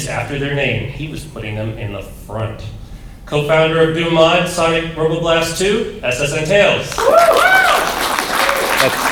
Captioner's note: applause